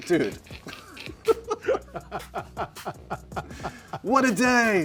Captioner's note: laughter